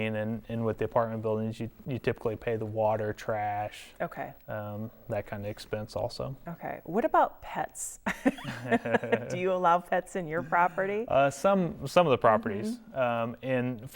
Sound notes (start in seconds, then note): 8.2 laughing